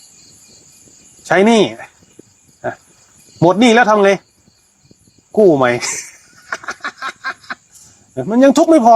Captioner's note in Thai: เสียงหัวเราะ